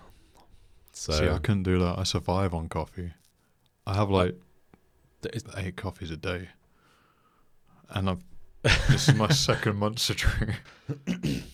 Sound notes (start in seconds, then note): 8.6 laughs